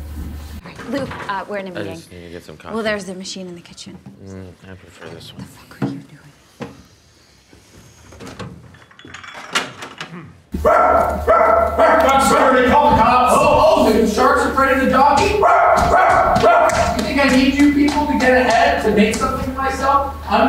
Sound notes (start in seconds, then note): 5.5 whispers; 8.4 clanking; 10.6 barking; 15.3 barking